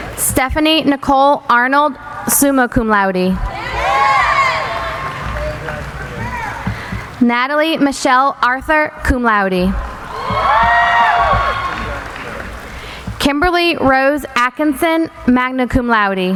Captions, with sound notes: Stephany Nicole Arnold, summa cum laude. Natalie Michelle Arthur, cum laude. (cheering) Kimberly Rose Atkinson, magna cum laude.